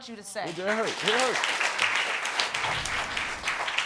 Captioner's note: audience applauding